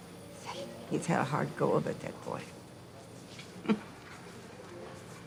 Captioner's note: laughs